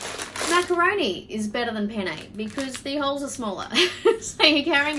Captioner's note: chuckles